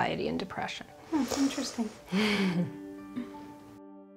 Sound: chuckling; spirited uplifting music continues

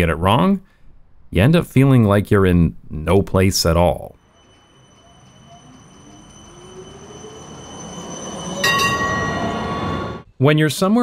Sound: tram sound intensifies

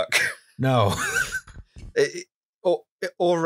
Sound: laughter

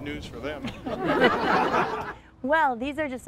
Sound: laughter

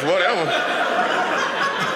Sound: audience laughing

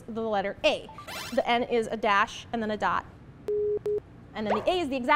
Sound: boop bip

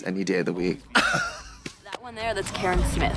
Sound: Katya chuckles

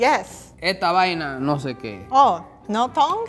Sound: speaking in foreign language

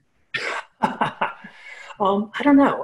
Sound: laughs

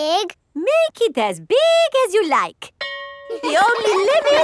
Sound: school bell rings; children laughing

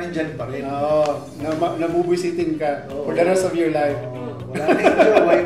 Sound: laughs

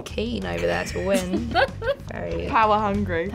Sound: laughs

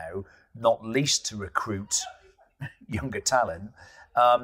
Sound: laughs

